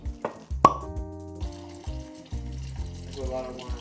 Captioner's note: wine bottle cork pops